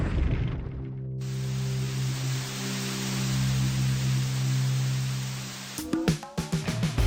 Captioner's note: tv static